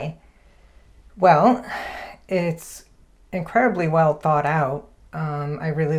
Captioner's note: sighs